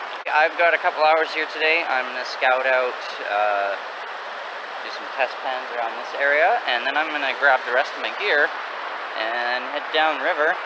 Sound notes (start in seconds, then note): none